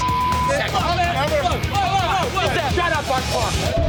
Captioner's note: arguing